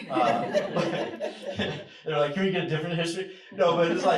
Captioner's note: laughter; laughter